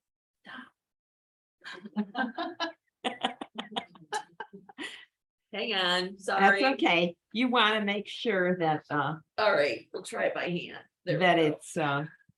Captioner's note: laughter